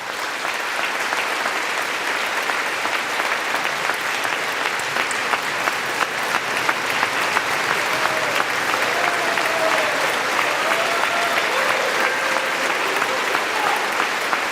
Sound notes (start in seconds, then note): 5.4 applause